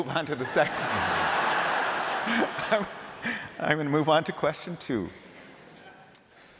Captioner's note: laughter